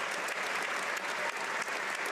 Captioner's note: applause; cheers